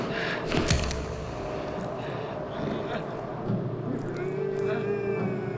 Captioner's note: thud